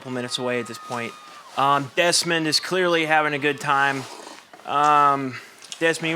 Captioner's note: Desmond sips drink loudly